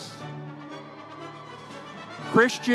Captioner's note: audience cheering